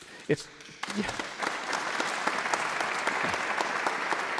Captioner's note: audience applauds